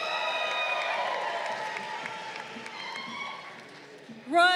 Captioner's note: crowd cheering